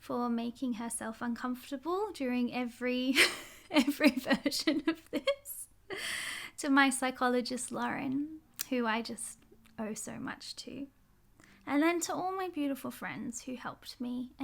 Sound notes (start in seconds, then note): 4.1 laughs